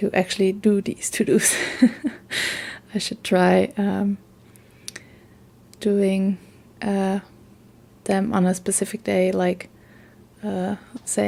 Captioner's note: laughs